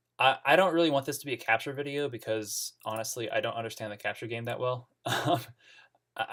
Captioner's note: laughs